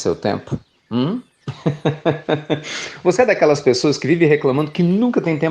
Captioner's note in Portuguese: Risos